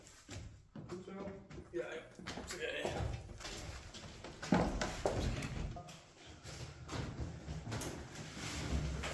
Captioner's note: dutch chatter